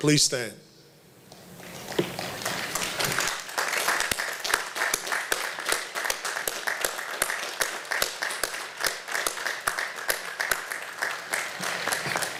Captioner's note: applause